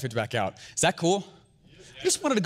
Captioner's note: audience agrees